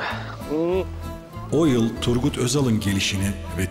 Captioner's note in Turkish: Ahmet dış ses